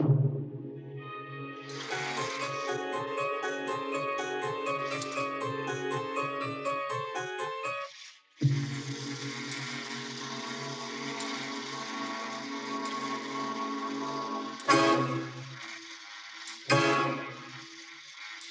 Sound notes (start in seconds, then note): 1.5 toy clattering; 14.6 ominous orchestral music